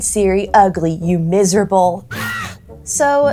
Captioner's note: Bruxa noises